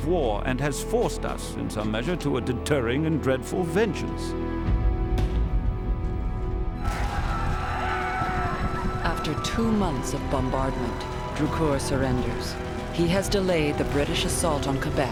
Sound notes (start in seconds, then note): 6.8 shouting, screams and gunfire